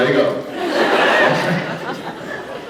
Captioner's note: laughing; laughs